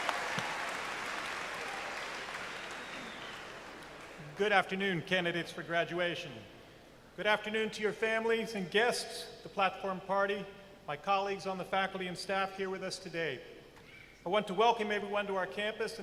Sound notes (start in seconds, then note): 2.6 cheers and applause